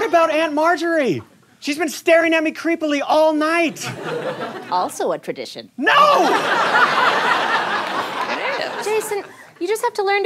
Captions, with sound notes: What about Aunt Margery? She's been staring at me creepily all night! - Also a tradition. - No! [audience laughter] - It is! - Jason, you just have to learn